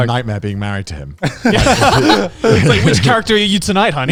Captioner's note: everyone laughs